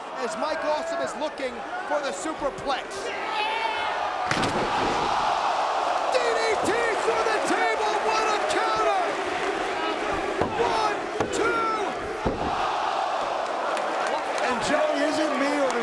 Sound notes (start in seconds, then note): 4.3 table crashing; 12.2 hand pounding; 12.5 crowd exclaiming